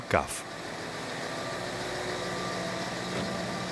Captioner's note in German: Maschinenlärm